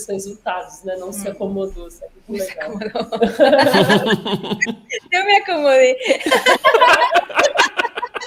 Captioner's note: laughter